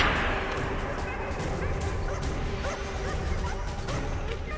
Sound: dogs barking

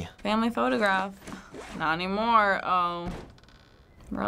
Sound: unzipping backpack

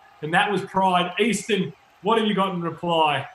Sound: crowd cheering

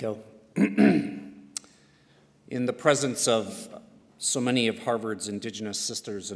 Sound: clears throat

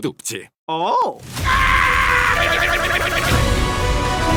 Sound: Luci shouting; epic music playing

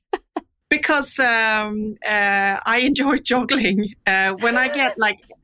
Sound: laughs

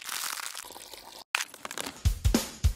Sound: crunching; pouring liquid; placing crackers down

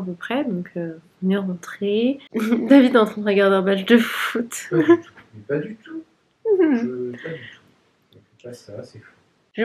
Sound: laughs

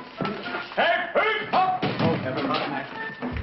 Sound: shouting

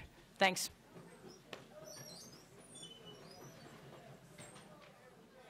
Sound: people chattering softly

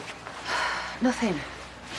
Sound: sighs

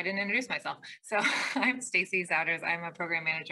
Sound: laughs

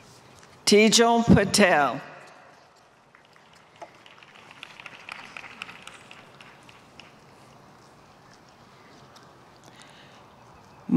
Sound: applause

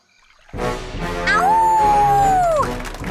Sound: howling

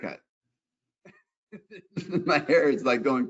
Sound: laughs

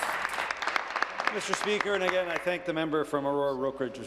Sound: applause

